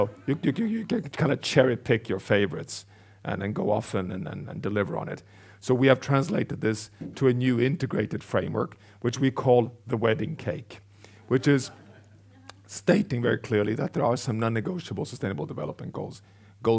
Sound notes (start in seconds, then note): 11.2 audience laughs